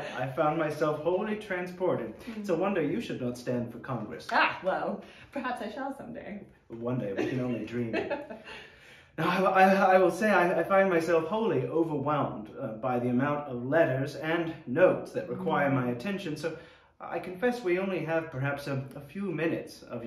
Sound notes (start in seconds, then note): 7.1 laughing